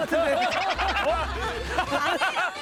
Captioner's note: laughing